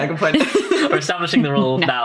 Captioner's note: laughs